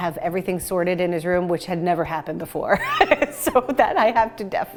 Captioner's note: laughs